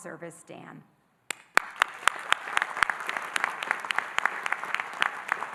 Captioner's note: audience applauding